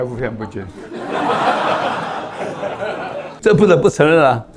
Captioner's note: laughs